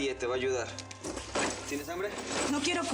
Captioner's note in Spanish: ruido de cadenas